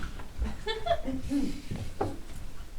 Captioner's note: clears throat